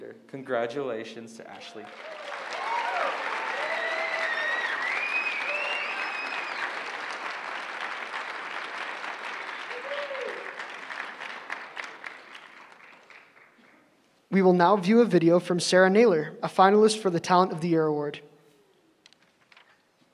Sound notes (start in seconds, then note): 1.7 applause